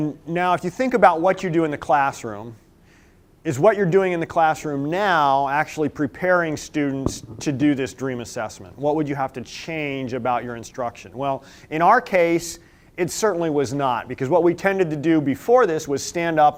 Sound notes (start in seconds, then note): none